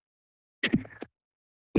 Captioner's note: microphone noise